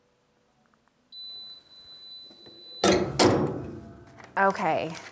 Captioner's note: timer beeps